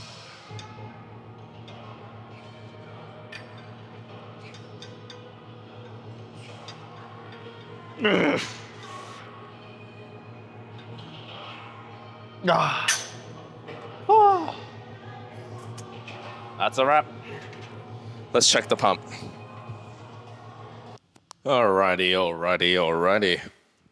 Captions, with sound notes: (upbeat music) (grunts) (grunts) That's a wrap. Let's check the pump. All righty, all righty, all righty.